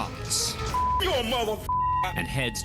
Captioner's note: shouting expletives